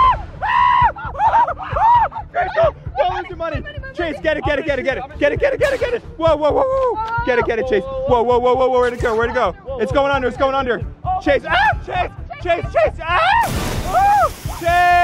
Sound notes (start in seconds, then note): 0.0 screaming; 13.4 water splashing; 13.7 screaming